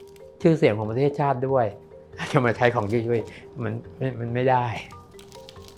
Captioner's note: speaking foreign language